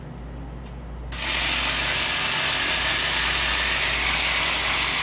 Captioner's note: machinery whirring